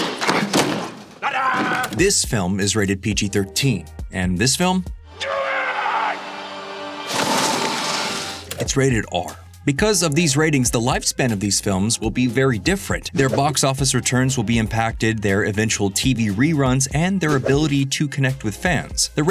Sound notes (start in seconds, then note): 0.0 struggling; 0.0 smack; 5.1 screaming; 6.9 whoosh